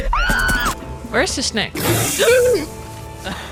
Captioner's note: gasp